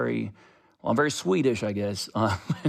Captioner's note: laughter